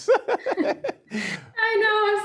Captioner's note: laughing